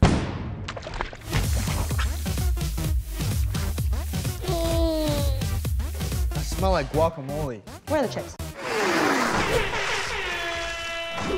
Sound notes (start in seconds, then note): 4.4 groaning; 9.9 siren blaring